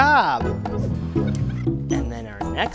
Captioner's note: sped up voice squeaks